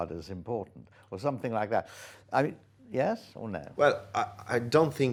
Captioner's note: inhales